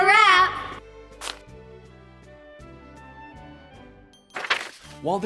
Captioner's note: cards whooshing